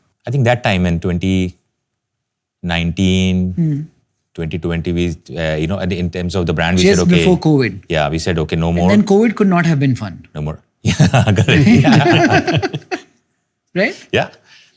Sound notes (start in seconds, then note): 10.8 laughter